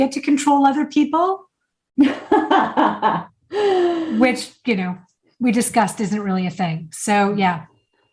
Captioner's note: laughing